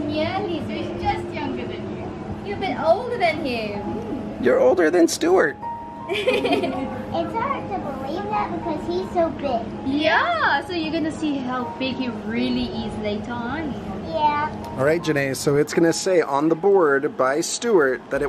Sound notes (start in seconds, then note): 6.1 all laugh